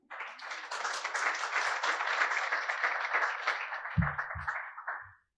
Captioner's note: applause